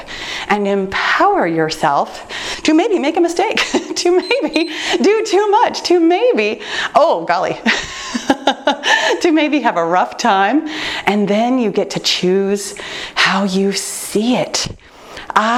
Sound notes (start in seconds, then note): 4.1 timer beeps; 8.1 laughing